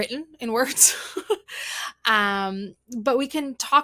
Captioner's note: laughs